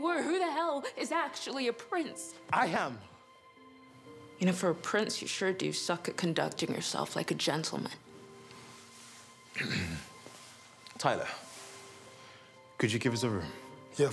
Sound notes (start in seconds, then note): 9.5 clears throat